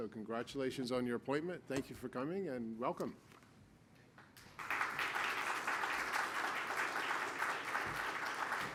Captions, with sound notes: So congratulations on your appointment. Thank you for coming and welcome. (applause)